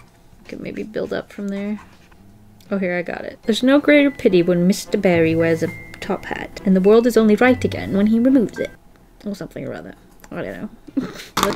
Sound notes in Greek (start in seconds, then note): 3.3 Βρετανική προφορά; 10.9 χαχανητά